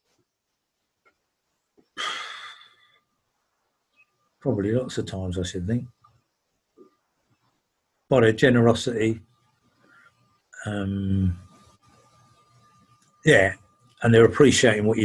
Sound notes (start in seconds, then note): 1.9 sighs